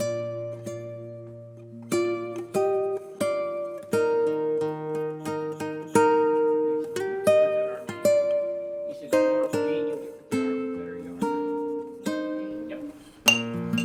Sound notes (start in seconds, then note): 0.1 tender guitar music; 7.2 chattering